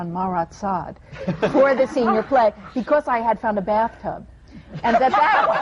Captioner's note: laughter; laughter